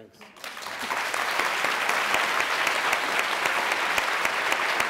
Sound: applause

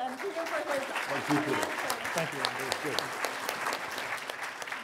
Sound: applause

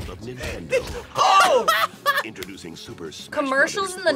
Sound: both laugh

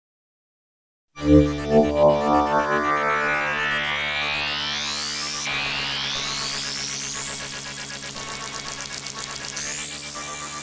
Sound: sound of ghost radio

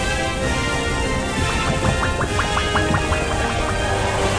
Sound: bubbles pop

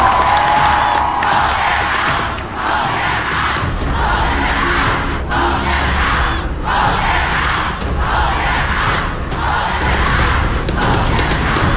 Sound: chanting: "Vote them out! Vote them out!"

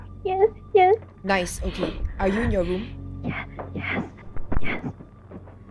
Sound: Viewer breathing heavily

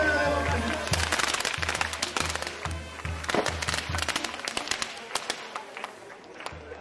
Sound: bells ringing; fireworks popping; people clapping

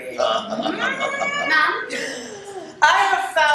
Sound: laughter

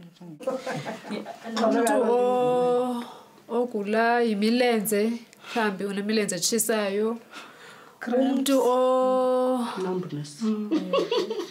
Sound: speaking Xhosa

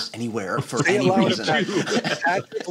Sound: laughter

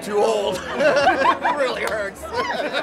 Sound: people chortle

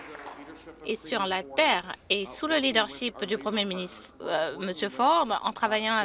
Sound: some Applause

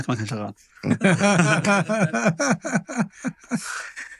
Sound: laughter

